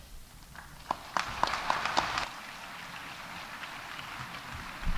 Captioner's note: audience applauding